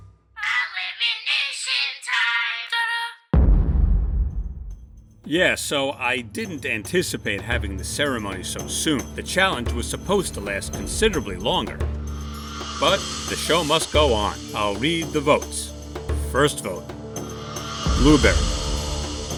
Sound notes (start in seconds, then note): 3.3 thud